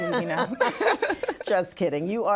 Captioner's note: laughing